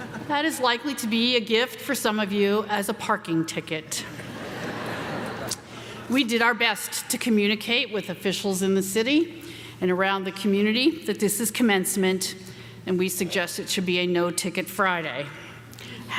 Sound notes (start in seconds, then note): 4.1 audience laughing